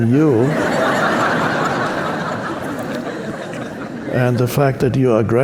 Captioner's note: audience laughing